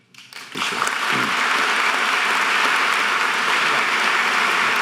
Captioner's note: audience applause